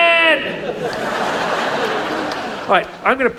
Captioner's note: audience laughs